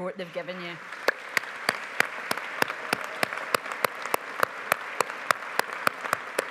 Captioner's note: audience applauding